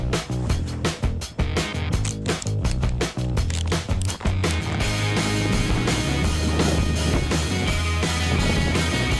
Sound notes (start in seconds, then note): 2.0 clicking; 5.8 windy